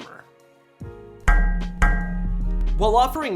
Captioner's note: metal clanging